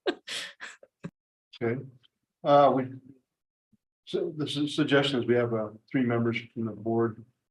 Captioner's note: laughs